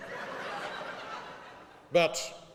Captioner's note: laughing